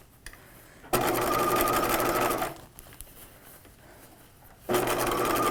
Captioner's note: machine whirring